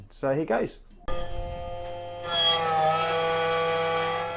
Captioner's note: grinding